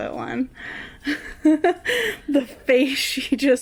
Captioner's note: laughs